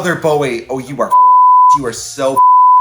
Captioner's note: beep